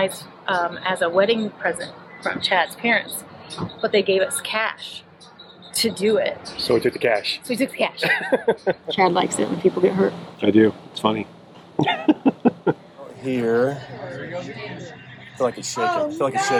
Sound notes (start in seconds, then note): 11.8 laughs